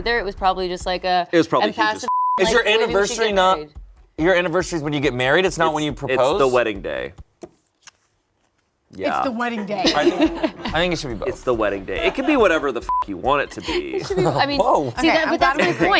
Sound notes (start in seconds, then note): 12.8 beep